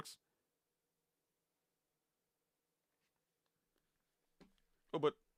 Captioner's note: mouse clicking